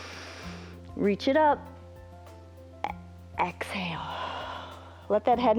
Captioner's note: inhales; exhales